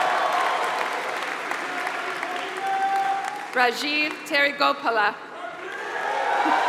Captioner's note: applause